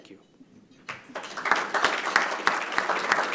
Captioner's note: applause